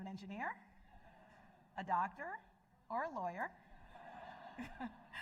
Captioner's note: laughter